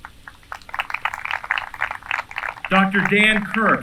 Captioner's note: applause